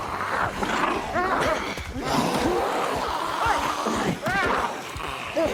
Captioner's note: character grunting